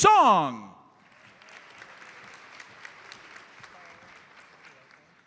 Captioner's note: audience applauds